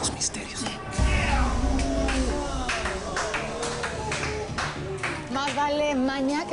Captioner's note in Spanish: Aplausos